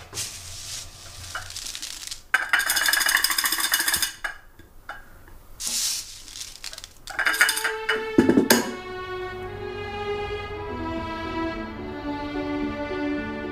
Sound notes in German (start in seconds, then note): 6.5 Klirren; 7.2 Idyllische Musik